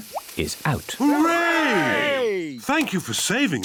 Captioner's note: cheering